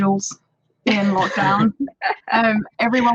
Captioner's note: everyone laughs